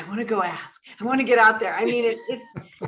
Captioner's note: all chuckle